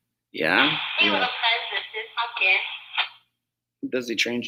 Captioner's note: muffled women voice on speaker